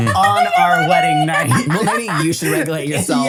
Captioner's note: laughs